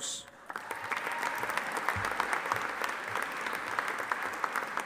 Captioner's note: audience applauding